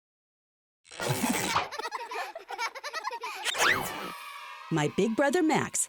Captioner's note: children laughing